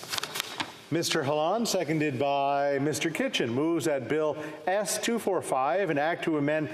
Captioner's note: speaking French